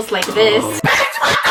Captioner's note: gasps